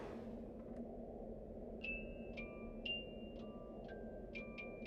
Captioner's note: wind howling